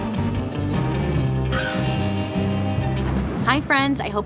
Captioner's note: bird caws